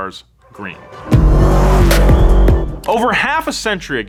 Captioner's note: car engine revs